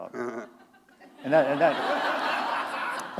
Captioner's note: laughter